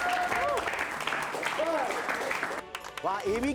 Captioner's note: clapping